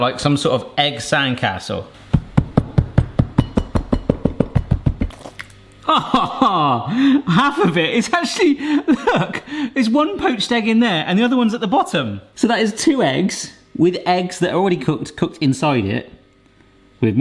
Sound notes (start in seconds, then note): 2.1 thumping; 5.8 laughing